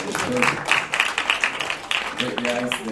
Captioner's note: attendees clapping loudly